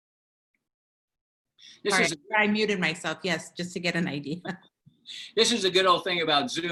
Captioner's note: laughter